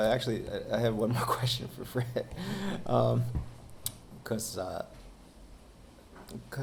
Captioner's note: chuckles